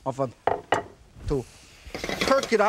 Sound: plate thuds softly; pan rattling

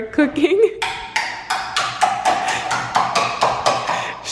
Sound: banging

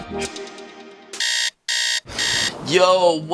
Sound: alarm blaring

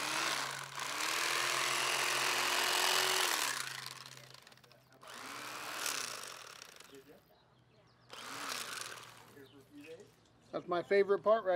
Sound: whirring of electric knife

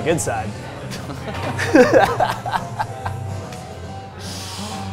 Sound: both laugh

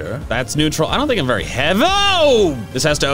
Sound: exclaims

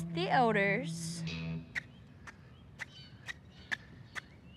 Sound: shoes squeaking

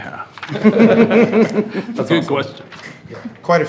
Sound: all laughing

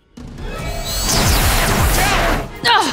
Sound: zapping

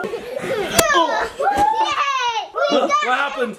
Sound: children giggling; pillow slaps

